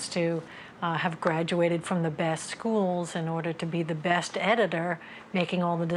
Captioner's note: none